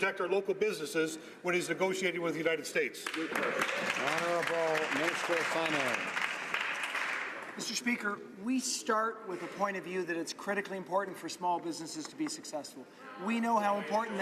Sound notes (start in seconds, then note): 7.1 some Applause